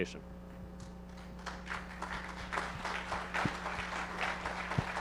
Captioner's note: audience applauding